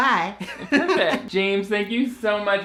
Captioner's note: laughs